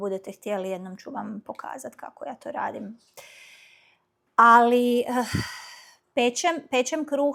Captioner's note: sigh